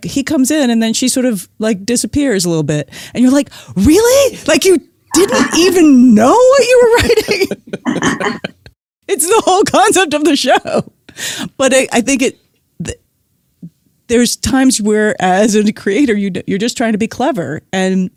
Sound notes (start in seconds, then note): 6.8 laughing; 11.3 guffaw